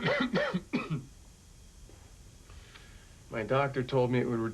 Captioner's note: coughs